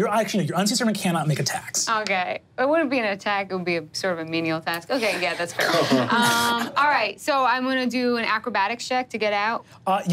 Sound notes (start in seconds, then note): 5.7 players laughing